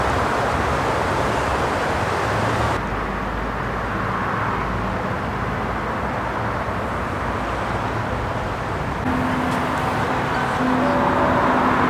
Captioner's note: wind blowing